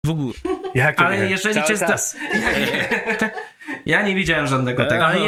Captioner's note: laughter